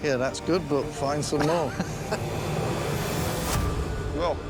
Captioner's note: laughs